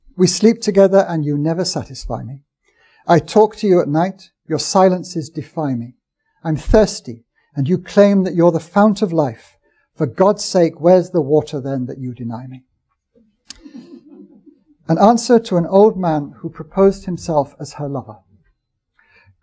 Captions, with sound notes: "We sleep together and you never satisfy me. I talk to you at night. Your silence is defining. I'm thirsty, and you claim that you're the fount of life. For God's sake, where's the water, then, that you deny me?" [AUDIENCE CHUCKLING] An answer to an old man who proposed himself as her lover.